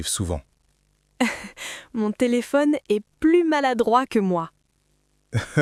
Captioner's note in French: rire